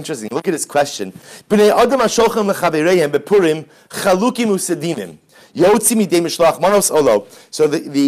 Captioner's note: Hebrew